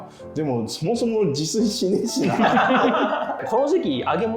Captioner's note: laughing